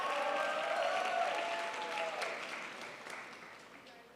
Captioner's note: crowd applauds